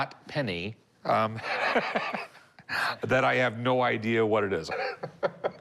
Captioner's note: laughs